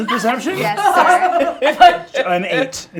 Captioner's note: laughing